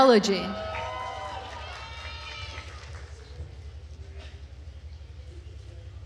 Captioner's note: attendees cheering and applauding